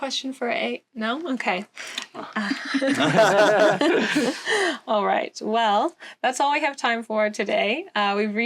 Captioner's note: laughter